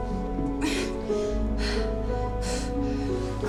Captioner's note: grunts, pants